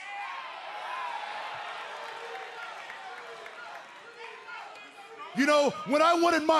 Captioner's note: cheers and applause